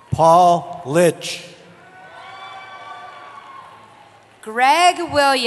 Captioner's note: cheering